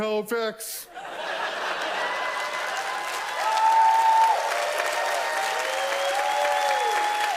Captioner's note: audience laughs and cheers